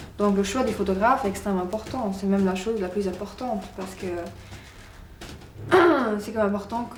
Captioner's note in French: raclement de gorge